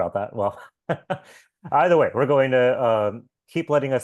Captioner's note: laughs